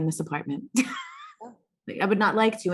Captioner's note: laughs